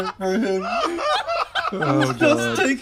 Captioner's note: laughs